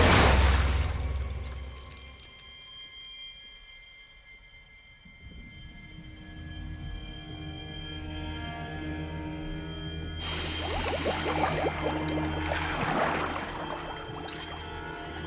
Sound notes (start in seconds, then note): none